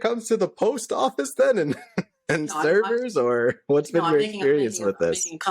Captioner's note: laughter